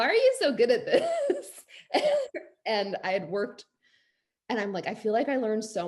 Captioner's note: laughs